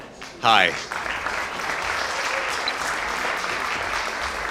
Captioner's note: applause